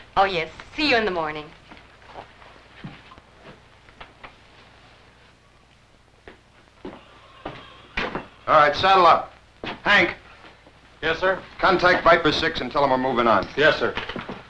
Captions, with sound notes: - Oh, yes, see you in the morning. [footsteps] - All right, saddle up. Hank? - Yes, sir? - Contact Viper 6, and tell them we're moving on. - Yes, sir.